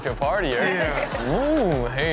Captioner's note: audience laughs